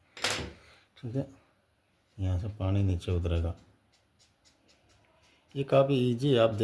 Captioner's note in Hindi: नाक से की जाने वाली आवाज़